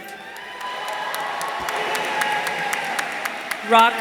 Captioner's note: audience applauding; audience cheering